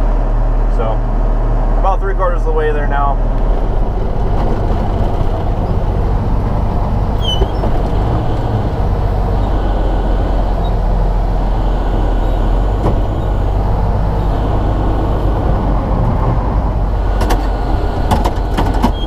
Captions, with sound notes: So about three-quarters the way there now (Engine noise)